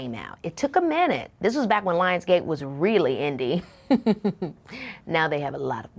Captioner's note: laughing